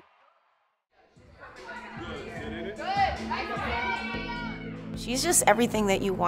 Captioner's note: people chatter